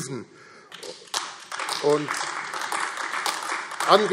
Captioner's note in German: Beifall AfD